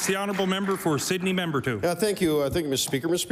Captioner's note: applause